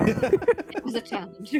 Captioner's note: laughter